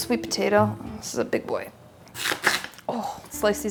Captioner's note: groans